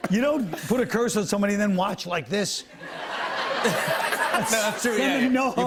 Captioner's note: laughter